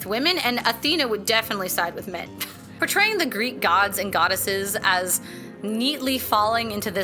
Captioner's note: scoffs